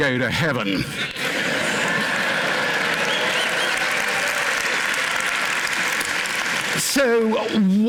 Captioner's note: cheering, applause